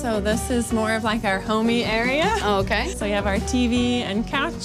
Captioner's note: laughs